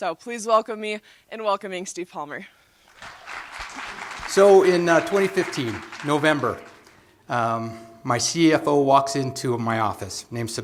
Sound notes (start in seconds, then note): 2.8 applause